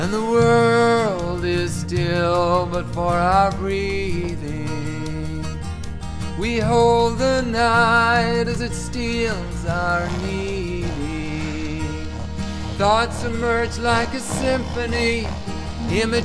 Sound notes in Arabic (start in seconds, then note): 11.3 الشخير